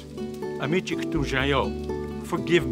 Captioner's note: speaking Native language